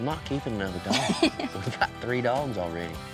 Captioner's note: laughing